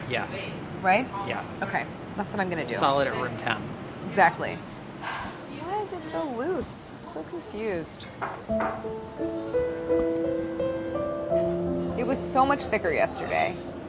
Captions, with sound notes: - Yes. - Right? - Yes. - Okay. That's what I'm gonna do. - Solid at room temp. - Exactly. [sighs] Why is it so loose? I'm so confused. [emotional piano music] It was so much thicker yesterday.